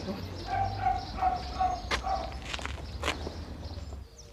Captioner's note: dog barking